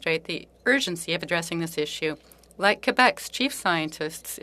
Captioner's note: speaking French